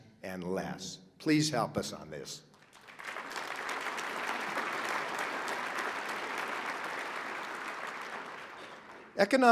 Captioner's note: applause